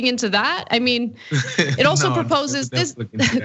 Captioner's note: laugh